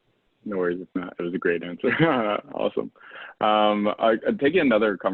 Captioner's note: laugh